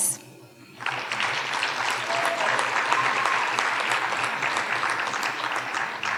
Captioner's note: audience cheering and applauding